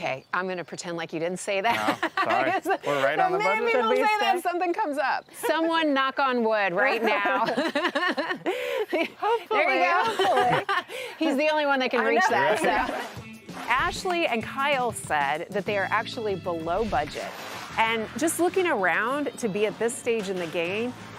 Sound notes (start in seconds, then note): 1.7 laughs; 6.8 group laughs; 10.5 laughs; 12.0 group laughs